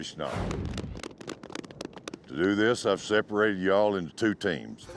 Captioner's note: cowboys clapping